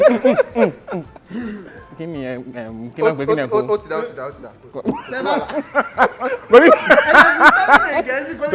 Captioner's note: laughs